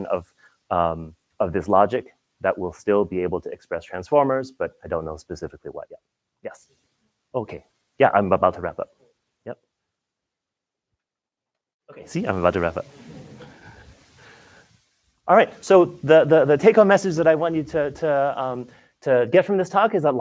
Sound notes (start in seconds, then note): 13.7 laughter